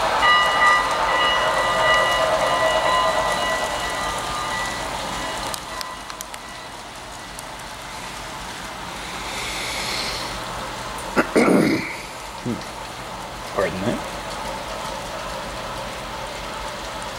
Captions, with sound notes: [Clears throat] Pardon that.